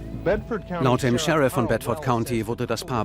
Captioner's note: TV commentary